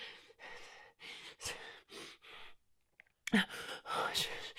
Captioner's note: heavy breathing